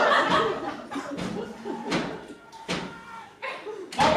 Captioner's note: offstage screaming and pounding continues